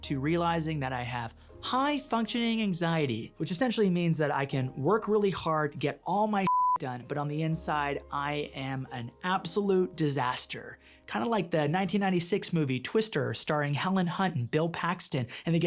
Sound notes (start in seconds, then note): 6.4 beep